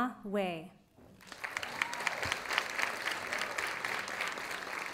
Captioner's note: audience applauding